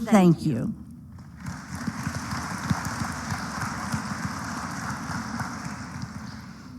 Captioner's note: applause